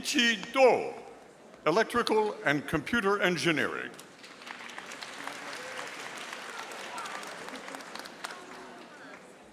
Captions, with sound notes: Yichi Do, Electrical and Computer Engineering. (audience applauding)